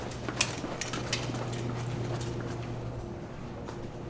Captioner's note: footsteps thumping